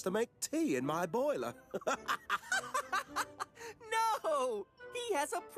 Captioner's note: laughs